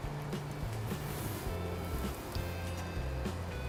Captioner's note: stirring